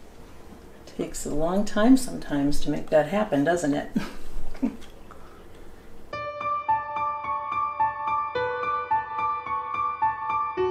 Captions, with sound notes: It takes a long time sometimes to make that happen. Doesn't it? (giggling) (mood music)